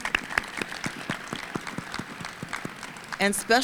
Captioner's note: and audience applauding